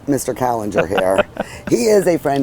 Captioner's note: laughing